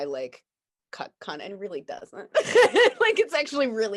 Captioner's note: laughs